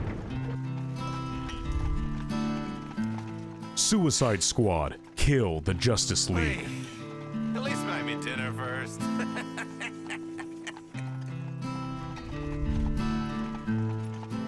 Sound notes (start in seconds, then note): 9.7 laughs